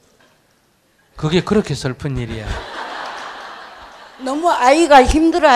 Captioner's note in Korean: 청중웃음